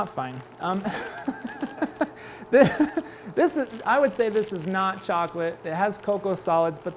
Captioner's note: laughs